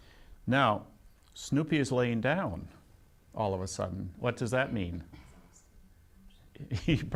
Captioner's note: laughs